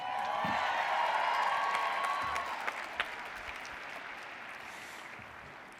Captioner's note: audience cheers; applauds